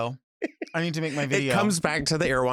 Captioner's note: laughs